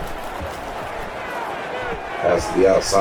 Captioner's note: crowd Noises